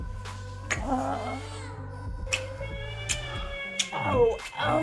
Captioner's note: sensual music; adam crying